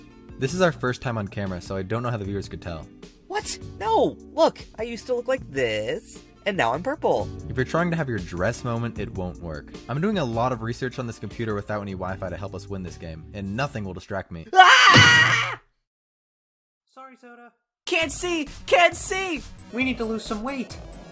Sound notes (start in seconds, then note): 14.5 screaming